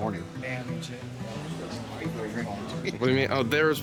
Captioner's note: people chattering